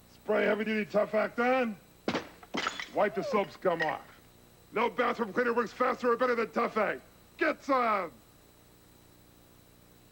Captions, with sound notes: Spray heavy-duty Tough Act on ... [crash, falling tiles] wipe the soap scum off. No bathroom cleaner works faster or better than Tough Act! GETSOME!